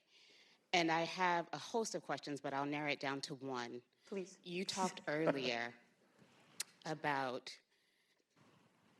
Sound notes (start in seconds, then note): 4.2 laughter